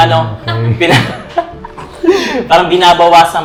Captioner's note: laughs